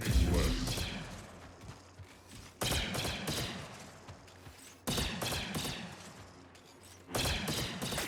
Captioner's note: gunshots